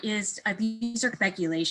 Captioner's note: beeping sound